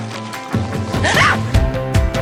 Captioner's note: scream